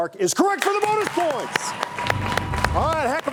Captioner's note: audience applauds